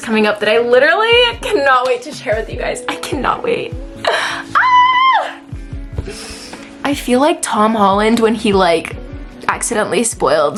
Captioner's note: screams